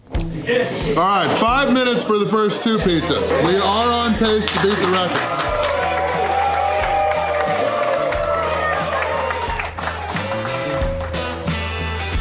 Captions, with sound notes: Alright, five minutes for the first two pizzas. We are on pace to beat the record! (Crowd cheering)